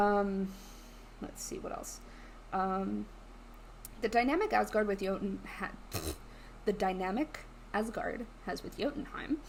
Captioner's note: blows raspberry